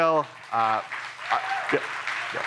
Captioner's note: audience applauding